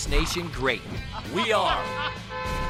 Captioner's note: chef laughs; car horn blares